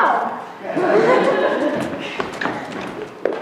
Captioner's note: laughter